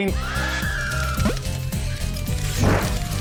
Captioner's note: eerie screaming; upbeat music